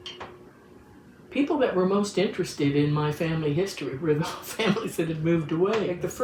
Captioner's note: laughs